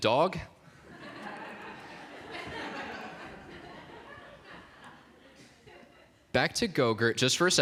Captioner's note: laughter